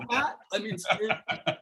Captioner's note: laughter